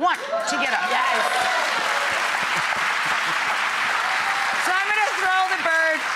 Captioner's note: audience cheering and applauding